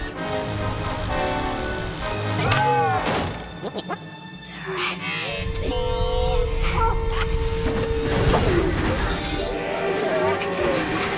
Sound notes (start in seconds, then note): 3.2 exclaims questioningly; 4.4 groaning weakly